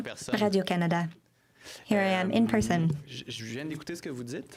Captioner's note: speaking French